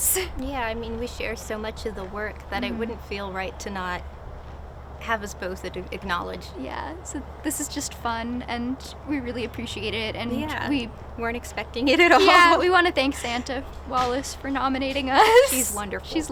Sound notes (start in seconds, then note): 11.9 laughter